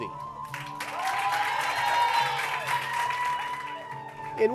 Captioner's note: cheers and applause